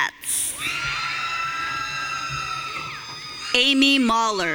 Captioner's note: audience cheering